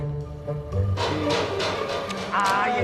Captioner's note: sound of metal